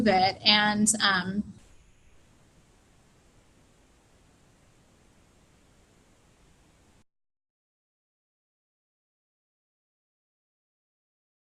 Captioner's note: computer error silence